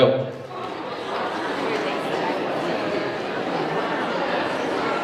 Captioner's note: students chatter